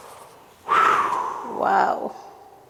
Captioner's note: exhales